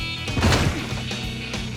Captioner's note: thud